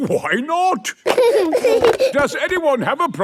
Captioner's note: giggling